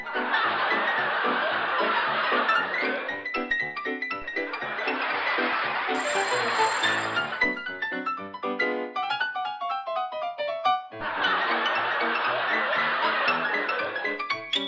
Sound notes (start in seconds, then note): 0.0 audience laughing; 5.9 phone ringing; 11.0 audience laughing